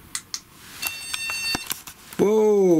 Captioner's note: electronic beeping